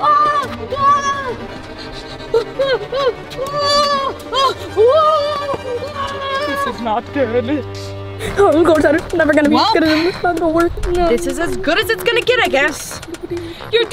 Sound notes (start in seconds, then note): 1.3 panting; 1.5 intense orchestral music